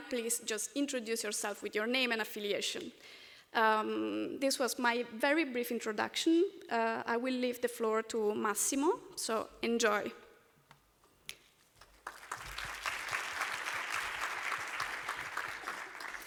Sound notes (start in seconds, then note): 11.7 applause